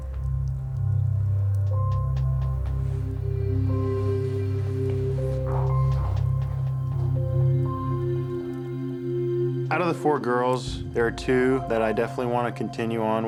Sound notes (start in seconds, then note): 0.1 solemn music; 4.0 sighs